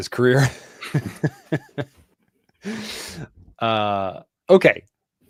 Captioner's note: laughter